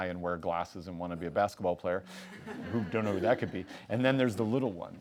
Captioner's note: laughing